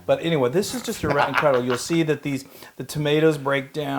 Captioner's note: laugh